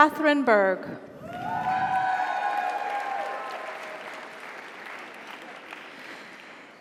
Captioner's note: audience cheers; audience applauds